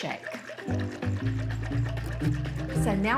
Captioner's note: liquid sloshing; cheerful music